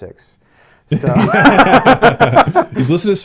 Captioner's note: laughing